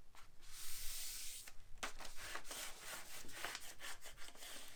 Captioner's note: paper smoothing